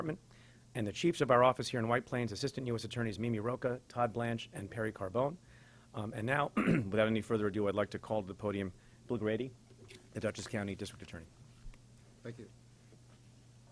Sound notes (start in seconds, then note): 6.5 clears throat